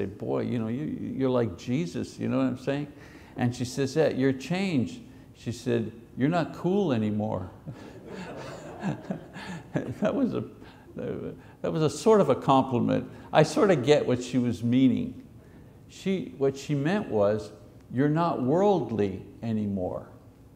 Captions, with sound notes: "Boy, you know, you're like Jesus." You know what I'm saying? And she says, "Yeah, you're changed." She said, "You're not cool anymore." (congregation laughs) That was sort of a compliment. I sort of get what she was meaning. What she meant was, "You're not worldly anymore."